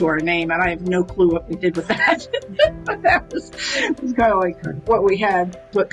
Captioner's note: laughs